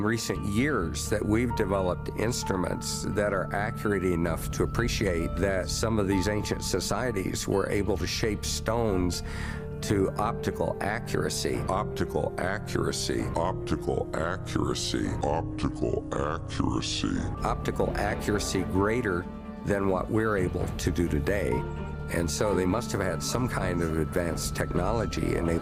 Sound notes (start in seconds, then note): 13.3 even slower and even more low pitched; 15.2 super slow and super low pitched